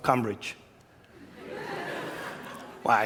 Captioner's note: laughter